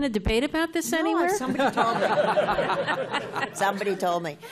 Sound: laughter

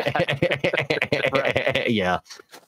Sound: laughing

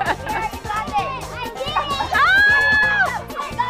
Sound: chuckles; happy shouting

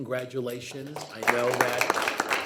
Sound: group applauds

